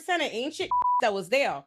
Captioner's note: beep